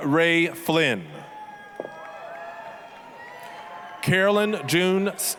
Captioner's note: applause, cheering